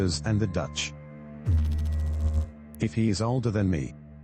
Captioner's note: electrical noise